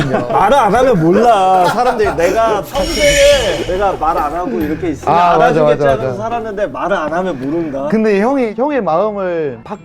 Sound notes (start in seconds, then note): 2.7 sudden outburst of frustration